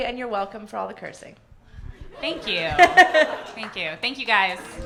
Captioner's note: laughs; funky soul